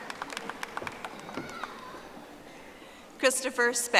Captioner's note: audience applauding